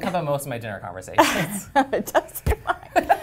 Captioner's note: laugh